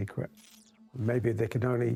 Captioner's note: light crackling